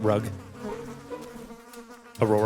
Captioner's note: flies buzzing